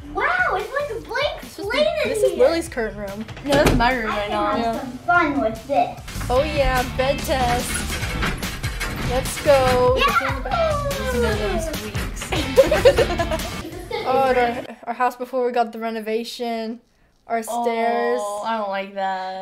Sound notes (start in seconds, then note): 8.5 bed squeaking; 8.5 upbeat music; 12.2 laughing